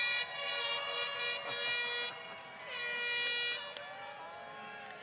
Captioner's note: applause